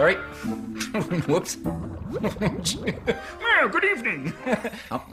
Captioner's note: laughter